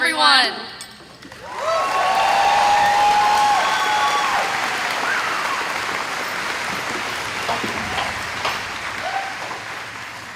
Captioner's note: cheering and Applause